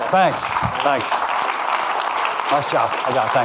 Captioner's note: audience clapping